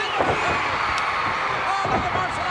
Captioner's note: crowd cheers